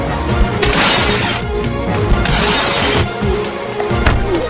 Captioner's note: glass shattering; Night groaning